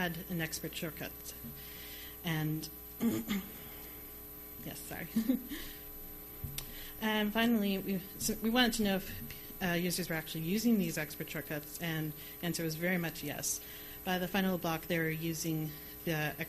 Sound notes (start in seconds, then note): 3.0 clears throat; 5.8 laughs